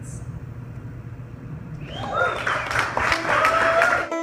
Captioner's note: applause, Cheers, Whistle